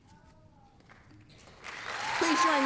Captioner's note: applause, cheering